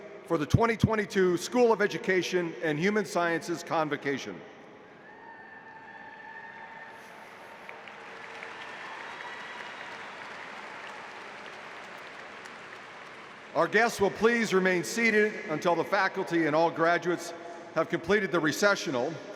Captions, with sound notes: for the 2022 School of Education and Human Sciences Convocation. [APPLAUSE] Our guests will please remain seated until the faculty and all graduates have completed the recessional.